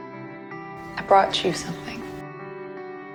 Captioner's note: voiceover